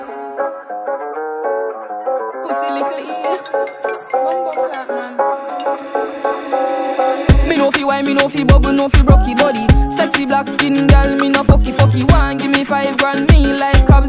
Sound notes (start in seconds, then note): 2.5 phone Ring